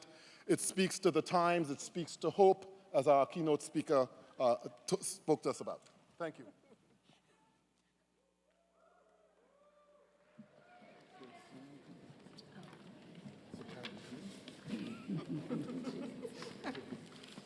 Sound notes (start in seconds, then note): 9.6 people laughing; 10.4 crowd chattering